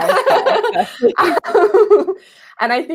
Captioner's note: laughing